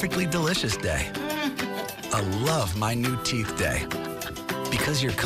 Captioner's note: chuckles